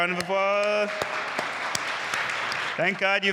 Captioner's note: audience applauding